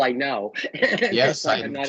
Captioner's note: laughing